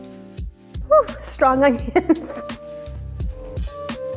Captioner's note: lounge music; laughing; lounge music